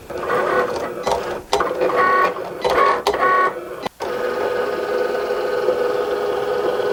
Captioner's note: Cricut whirs; Cricut beeps